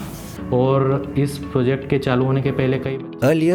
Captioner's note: speaker speaking in foreign language